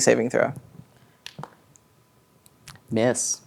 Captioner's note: dice rolling